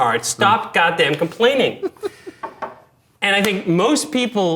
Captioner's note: laughing